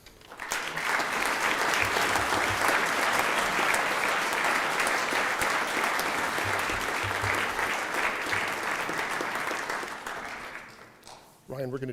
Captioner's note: applause